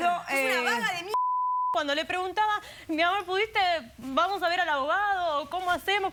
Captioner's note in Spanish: Bip